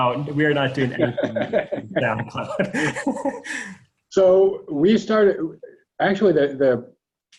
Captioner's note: laughter drowning out speech